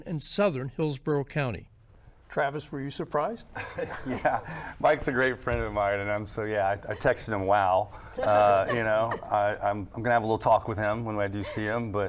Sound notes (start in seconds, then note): 4.2 laughs